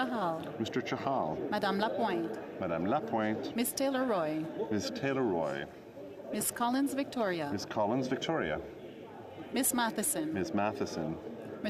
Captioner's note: calling of recorded vote